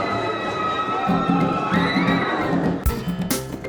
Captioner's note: screaming